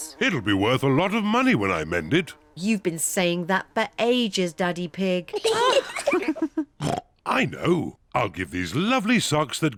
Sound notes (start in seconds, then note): 5.3 kids and mummy pig laugh; 6.8 oinks